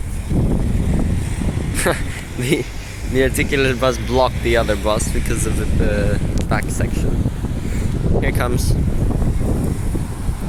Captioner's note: chuckle